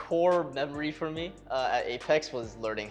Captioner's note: none